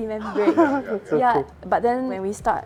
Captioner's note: laughs